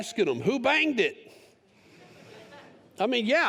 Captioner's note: laughter